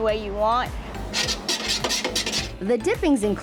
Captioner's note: ladle scrapes metal